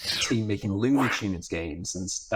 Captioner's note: graphic whooshes